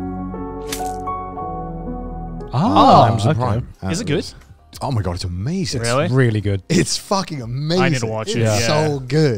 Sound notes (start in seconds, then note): 0.0 instrumental music; 1.0 blood splatters